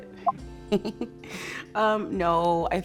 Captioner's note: laughing